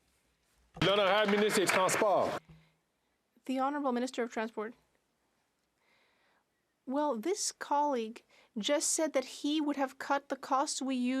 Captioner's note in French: applaudissements